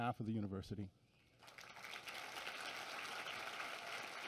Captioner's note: applause